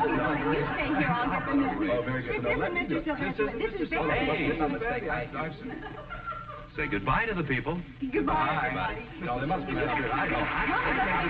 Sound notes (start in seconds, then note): 5.1 chattering; 6.5 arguing